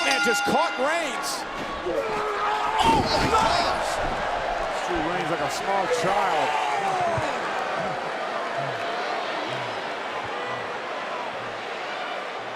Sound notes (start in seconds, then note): 8.3 crowd murmuring